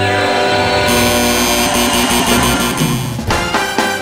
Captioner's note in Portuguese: campainha e aplausos